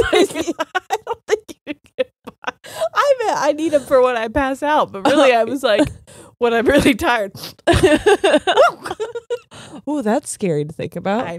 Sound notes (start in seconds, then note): 0.0 both laughing; 7.2 sniffs; 7.7 laughing